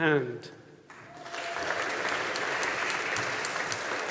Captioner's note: audience applauding